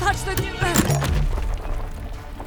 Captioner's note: CRUNCH, a second trap activates